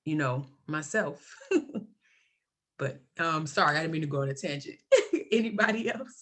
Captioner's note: laughs